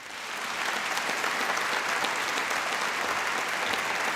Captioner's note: applause